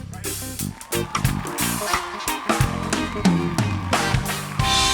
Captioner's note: audience cheers